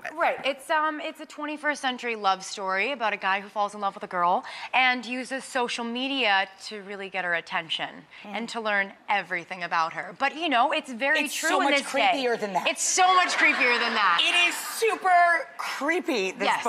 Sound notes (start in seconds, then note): 13.2 audience laughing